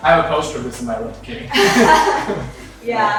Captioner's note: laughter